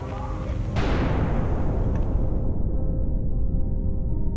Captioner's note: loud blast